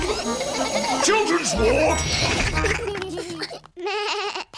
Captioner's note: elevator bell dings; bleats